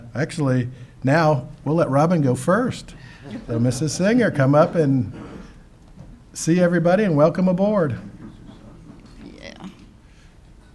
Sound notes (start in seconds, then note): 3.1 group laughing softly